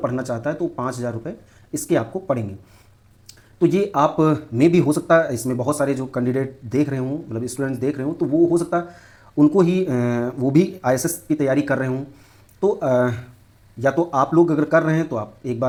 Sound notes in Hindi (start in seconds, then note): 3.1 नाक से की जाने वाली आवाज़